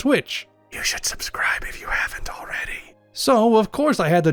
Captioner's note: whispered